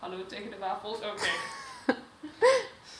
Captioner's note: laughs